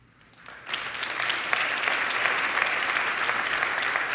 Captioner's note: crowd applauding